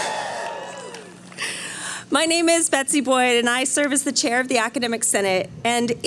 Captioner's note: cheering